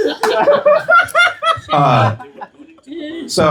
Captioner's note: laughter